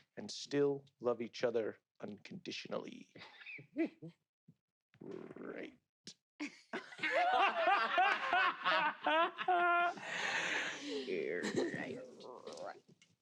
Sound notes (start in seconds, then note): 3.7 chuckles; 6.8 players laughing